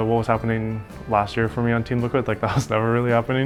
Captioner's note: chuckles